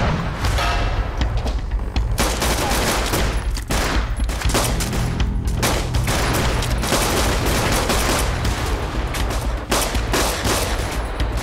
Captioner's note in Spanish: Disparos